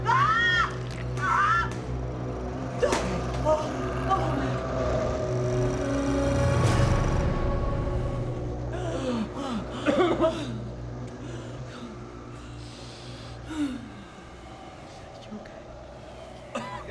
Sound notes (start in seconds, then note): 2.3 gun shot